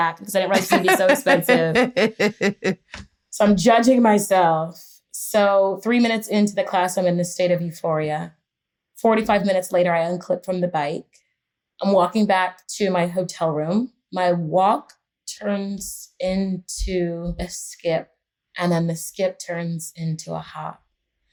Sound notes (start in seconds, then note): 2.3 laughter